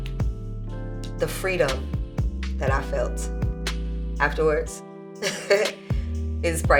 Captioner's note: laughs